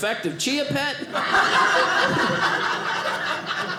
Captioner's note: audience laughing